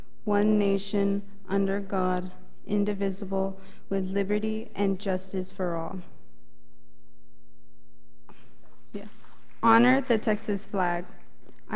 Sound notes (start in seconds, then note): 7.0 student conversing quietly